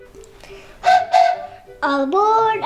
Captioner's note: plays train whistle